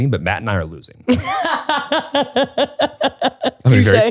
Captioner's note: laughs